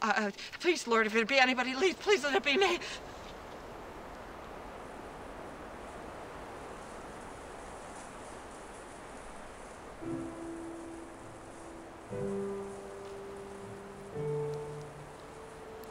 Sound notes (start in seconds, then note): 4.1 wind rustling; 9.8 soft music